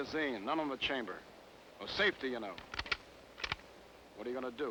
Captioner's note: rifle clicking